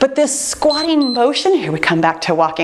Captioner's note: timer beeps